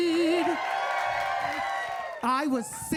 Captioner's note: audience cheering